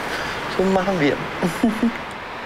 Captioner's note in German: lachend